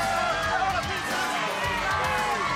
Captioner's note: crowd chatter